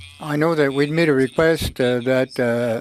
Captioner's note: speaking FRENCH